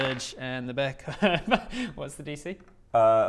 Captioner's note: suspicious laugh